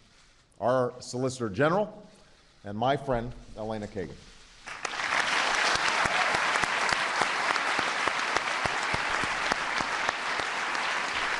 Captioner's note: applause